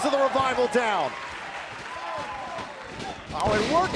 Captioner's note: crowd cheering